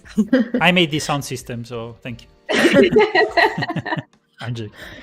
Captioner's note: laughter